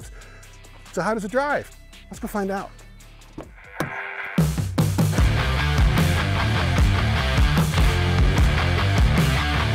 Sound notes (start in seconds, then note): 3.3 door thudding; 4.3 dramatic music